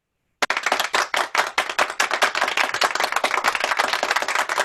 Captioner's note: people applauding